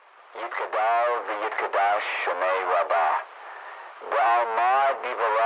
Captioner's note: speaking foreign language